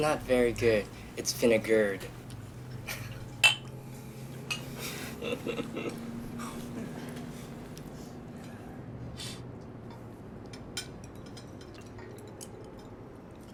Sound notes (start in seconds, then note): 2.7 glasses clink